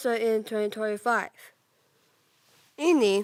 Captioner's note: rustling